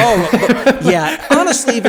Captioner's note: laugh